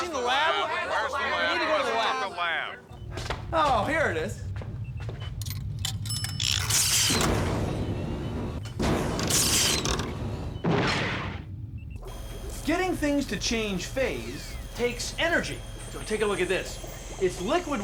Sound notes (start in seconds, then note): 5.6 ding